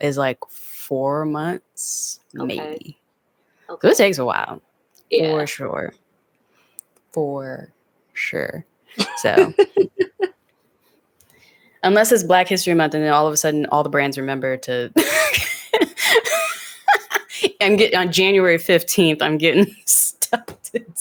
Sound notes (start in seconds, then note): 15.0 laughing